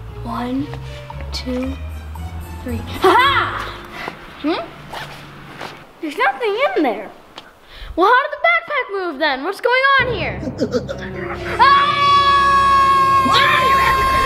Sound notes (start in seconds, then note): 11.5 screams; 12.9 alien laughs